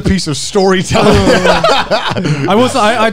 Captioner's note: both laugh